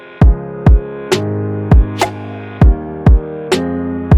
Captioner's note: hydraulic hammer chisel